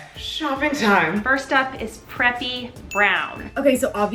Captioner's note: ding